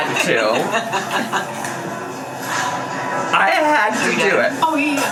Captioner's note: mom laughs